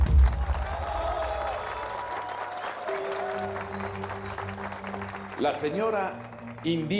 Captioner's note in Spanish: Aplausos